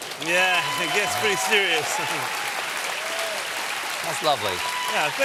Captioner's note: cheers and applause